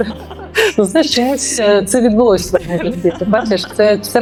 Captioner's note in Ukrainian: сміх